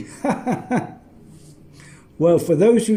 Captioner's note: laughs